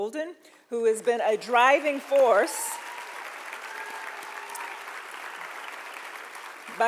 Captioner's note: audience applauding